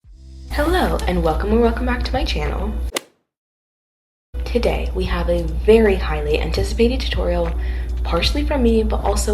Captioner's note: golf hit sound effect